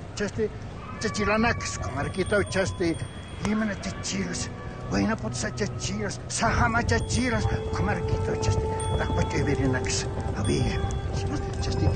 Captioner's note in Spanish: Habla en aymara